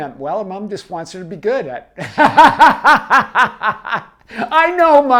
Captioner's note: laughs hysterically